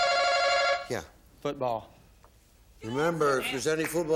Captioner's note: bell